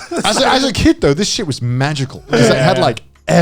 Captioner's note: chuckling